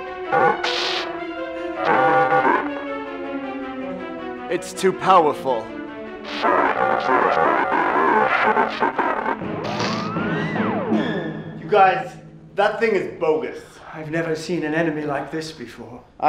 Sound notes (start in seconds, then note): 0.3 electricity cracking; 9.5 electricity cracking